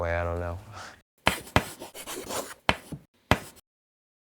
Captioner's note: chalk writing